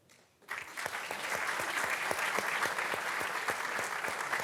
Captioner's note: audience clapping